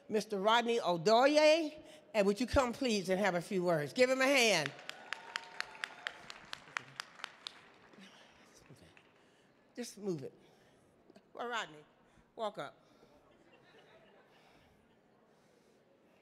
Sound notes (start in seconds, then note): 4.5 audience clapping